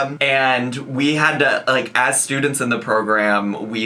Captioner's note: none